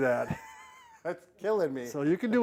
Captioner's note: laughing